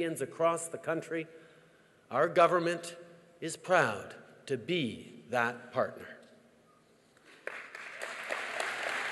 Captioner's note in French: Applaudissements